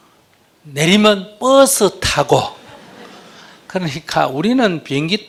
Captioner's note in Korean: 청중 웃음